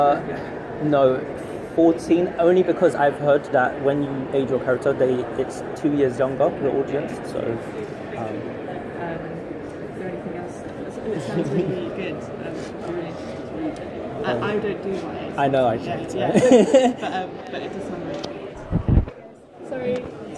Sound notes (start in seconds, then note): 16.3 laughs